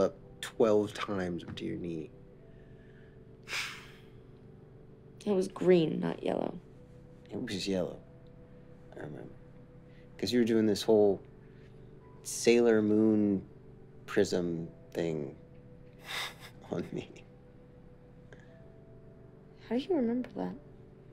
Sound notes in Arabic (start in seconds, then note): 3.5 تنهيدة